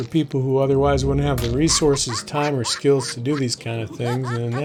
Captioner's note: laughing